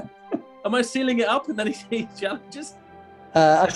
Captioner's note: laughing